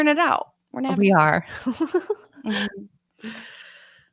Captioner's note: laughs